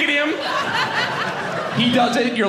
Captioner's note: audience laughing